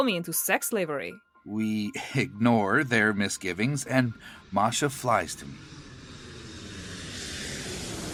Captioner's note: airplane engine